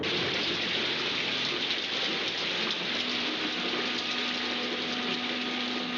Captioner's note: thunder rumbling; water splashing; dramatic music